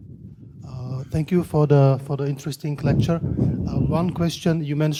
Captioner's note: voiceover